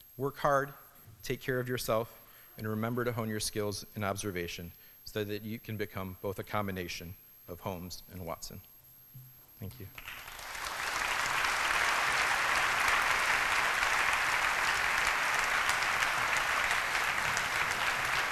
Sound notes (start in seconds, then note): 9.9 applause